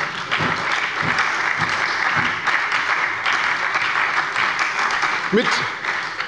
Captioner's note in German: Beifall bei der SPD